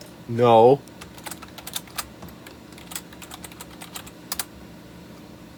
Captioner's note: soft, slightly clicky sounding keyboard noises